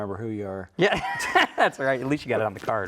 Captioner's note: laughs